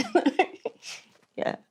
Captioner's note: laughs